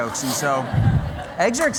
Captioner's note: laughter